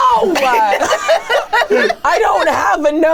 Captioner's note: everyone laughing